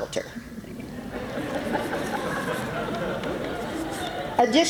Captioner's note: laughter